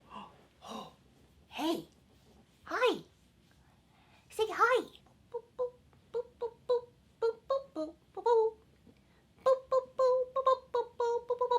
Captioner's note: hums the tune